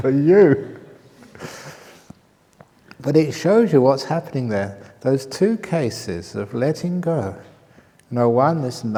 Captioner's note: laughter